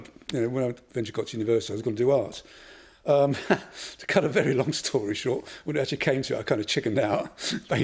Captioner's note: laughs